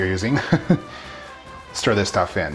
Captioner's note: chuckling